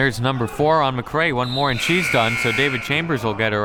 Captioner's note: buzzer ringing